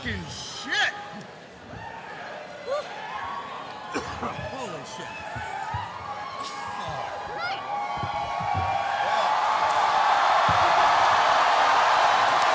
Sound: cheering

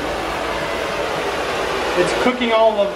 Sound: flames whistling

